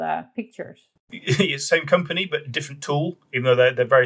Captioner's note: laughs